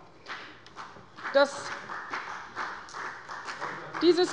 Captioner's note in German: Beifall bei der CDU und dem BÜNDNIS 90/DIE GRÜNEN